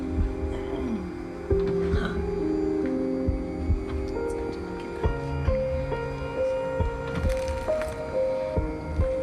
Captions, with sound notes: (COUGHS) That's good, darling. Keep going.